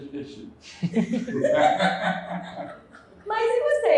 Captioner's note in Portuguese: risos